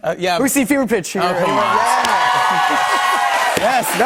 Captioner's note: cheers and applause